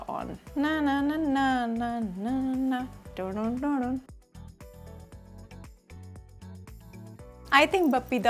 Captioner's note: hums